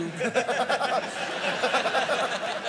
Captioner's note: laughter